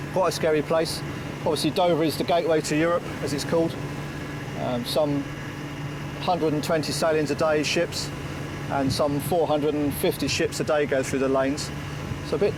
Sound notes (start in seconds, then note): 3.9 lifeboat engine whirring